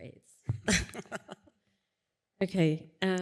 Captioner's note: laughter